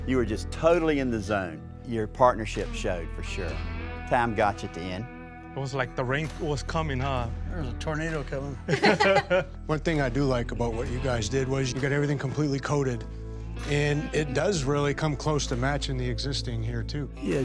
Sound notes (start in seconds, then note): 8.7 all laugh